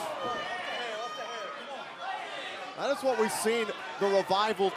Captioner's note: crowd chatter